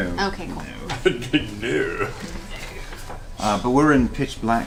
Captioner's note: laughs